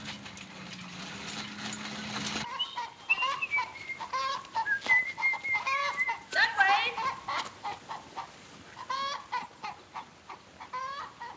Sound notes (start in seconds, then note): 2.4 chicken Clucking; 2.7 whistling